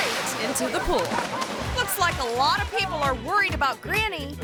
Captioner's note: rescuer splashes